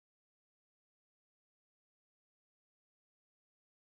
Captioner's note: none